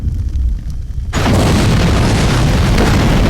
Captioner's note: explosion